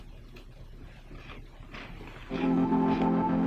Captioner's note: om nom nom nom